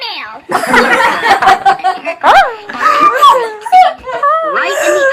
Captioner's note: loud laughter